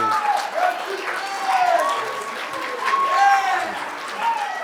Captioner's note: cheers and applause